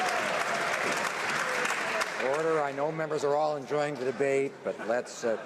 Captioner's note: some Applause